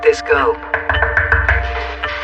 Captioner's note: knocking at door